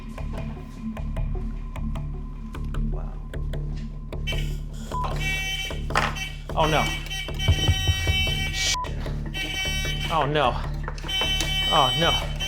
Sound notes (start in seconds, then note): 0.2 intense music; 4.4 hooter buzzing; 4.9 beep; 6.1 hooter buzzing; 8.6 beep; 9.8 hooter buzzing